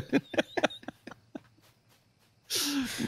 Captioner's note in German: lachen